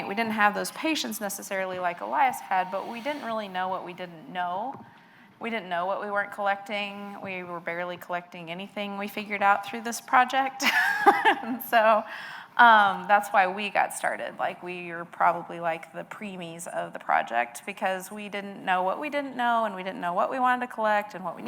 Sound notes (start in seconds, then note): 11.1 laughs